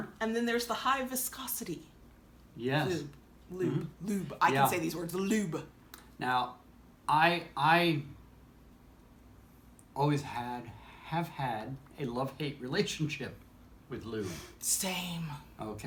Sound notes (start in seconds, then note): none